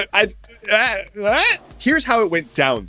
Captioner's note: confused noises